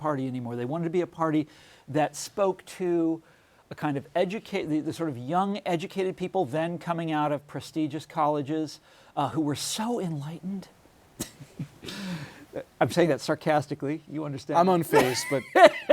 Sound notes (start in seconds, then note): 14.9 laughs